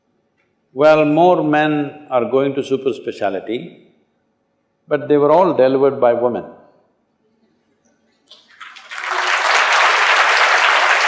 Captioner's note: applause